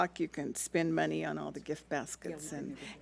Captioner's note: speaks off mic